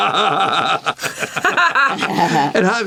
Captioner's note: laughter